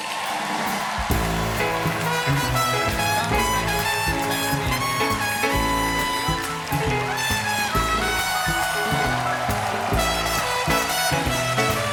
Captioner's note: cheers and applause